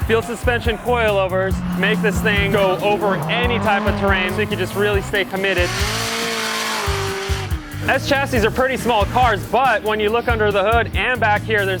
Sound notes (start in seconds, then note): 6.2 engine revving